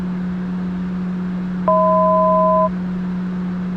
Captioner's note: 1,000 foot tone